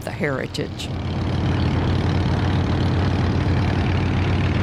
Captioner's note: engine rumbling